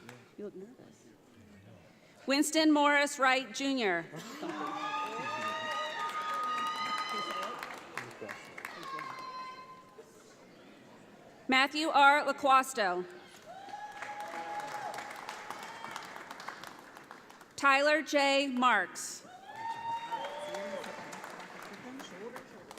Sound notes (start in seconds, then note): 4.4 audience applauds; 13.4 audience applauds; 19.4 audience applauds